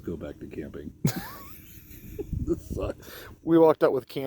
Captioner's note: laughing